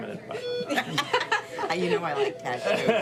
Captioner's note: laughing